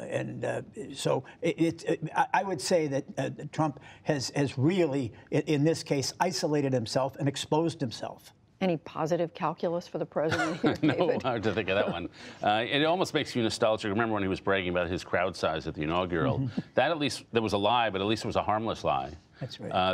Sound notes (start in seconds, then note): 10.2 laughter